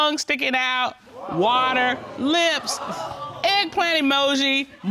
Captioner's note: audience exclaiming